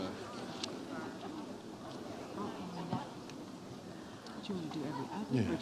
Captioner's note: presenters speaking faintly